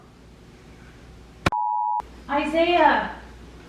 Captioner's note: beep